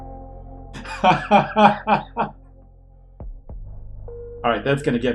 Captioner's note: laughs